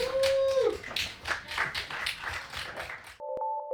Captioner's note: Aplauso y vítores; applause and cheering